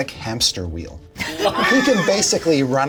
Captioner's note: all laugh